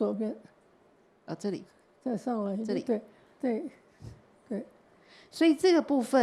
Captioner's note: Mandarin; Mandarin